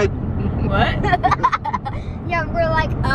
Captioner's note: laughs